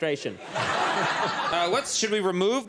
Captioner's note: audience laughs